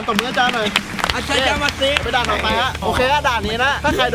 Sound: speaking Japanese

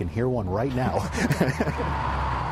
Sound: laughter

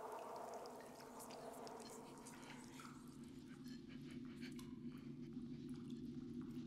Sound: ominous music; ghostly whispering

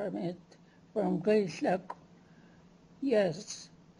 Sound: non-english

